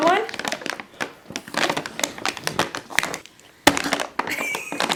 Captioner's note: paper crinkling; both laughing